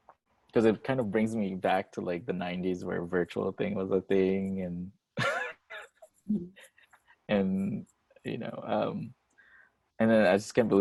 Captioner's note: laughs